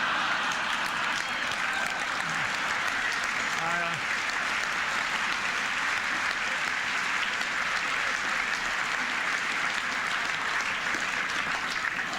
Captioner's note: applause, Laughter